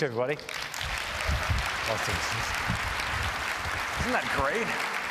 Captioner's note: applause